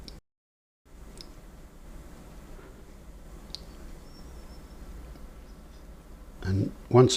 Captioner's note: silence